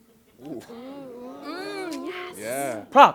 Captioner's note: excited chatter